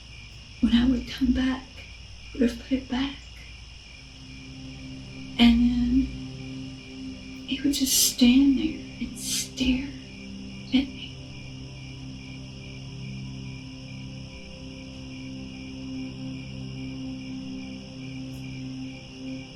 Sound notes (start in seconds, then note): 0.1 crickets; 4.9 crickets, haunting music